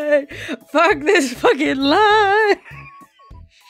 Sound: laughing

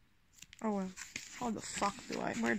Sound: rustle

